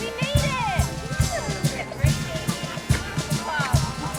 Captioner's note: chatter